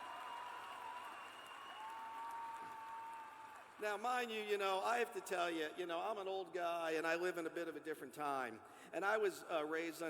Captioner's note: cheers and applause